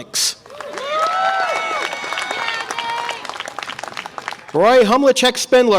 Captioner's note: audience applause and cheer